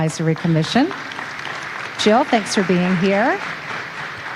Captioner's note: audience applauding